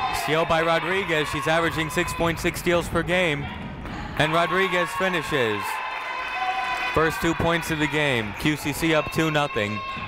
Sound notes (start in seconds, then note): 6.1 people cheering in the crowd